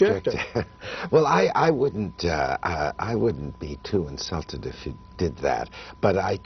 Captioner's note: laughter